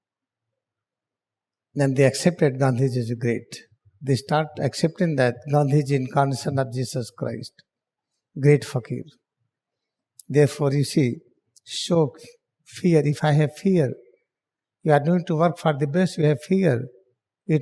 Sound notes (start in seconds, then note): 12.8 mourning